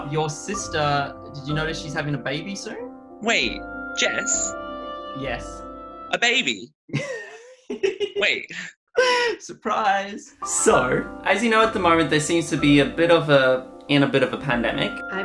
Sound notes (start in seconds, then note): 6.9 laughs